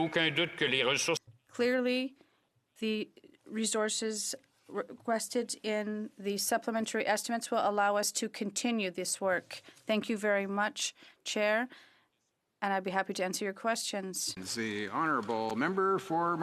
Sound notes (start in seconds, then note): 5.7 speaking French